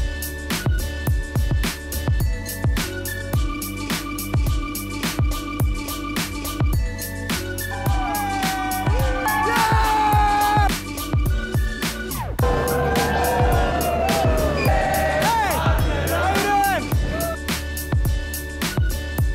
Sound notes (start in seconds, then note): 8.0 cheering